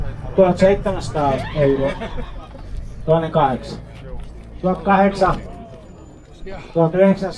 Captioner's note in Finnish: naurua